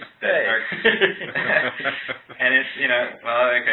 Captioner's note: laughter